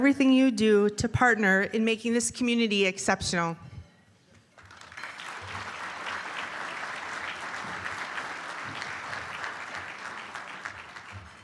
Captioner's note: applause